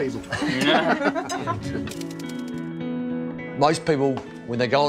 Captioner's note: people laughing